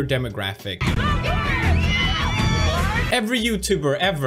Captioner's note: crazily screaming kids of Logan